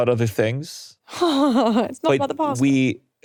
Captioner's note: laughing